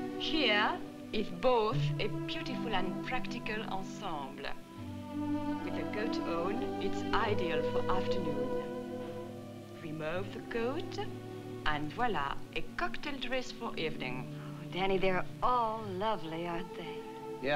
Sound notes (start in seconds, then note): 6.3 french